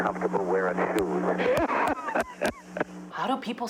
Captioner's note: laughing